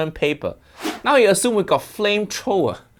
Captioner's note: air whooshing